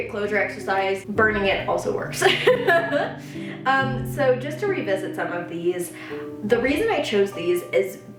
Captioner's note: laughs